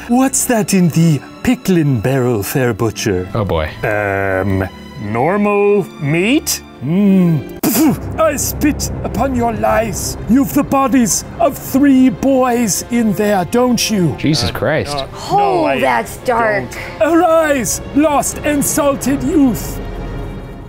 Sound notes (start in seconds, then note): 7.1 spitting sound; 7.6 dramatic music; 20.4 triumphant music